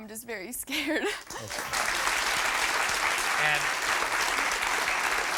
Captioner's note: audience applauds